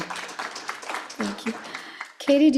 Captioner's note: applause